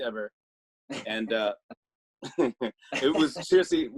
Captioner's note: both laugh